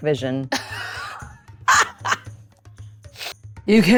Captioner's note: laughs